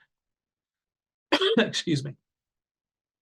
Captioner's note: coughs